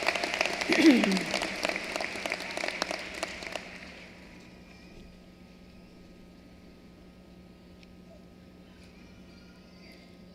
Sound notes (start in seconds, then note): 2.7 applause